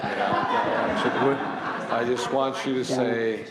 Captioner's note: laughter